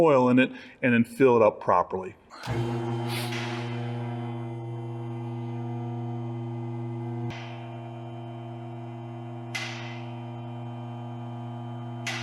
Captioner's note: lift Noise